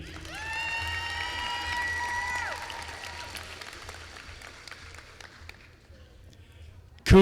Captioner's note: applause